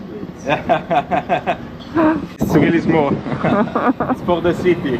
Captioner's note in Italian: Risate